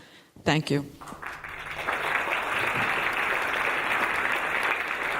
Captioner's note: audience applauding